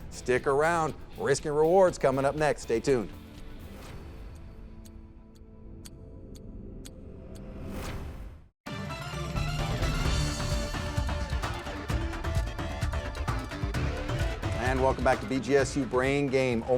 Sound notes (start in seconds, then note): 3.8 clock ticking; 3.8 upbeat music